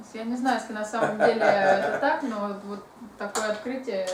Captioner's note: hahaha